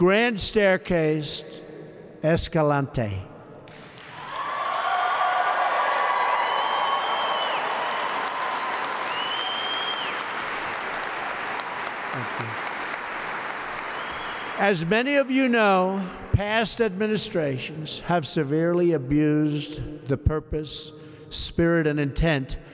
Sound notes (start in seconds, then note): 3.8 applause